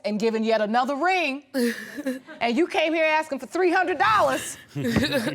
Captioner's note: chuckles; chuckling